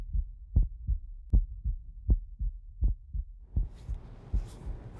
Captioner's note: heart beats rhythmically